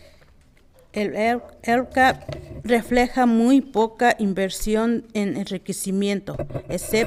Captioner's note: speaking in foreign language